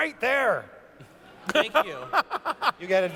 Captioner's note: laughs